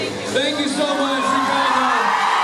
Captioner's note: cheers, applauds